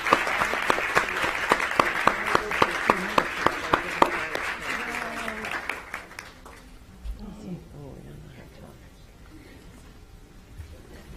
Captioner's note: cheering; applause